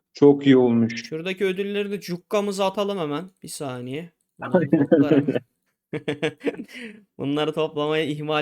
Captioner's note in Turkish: kahkaha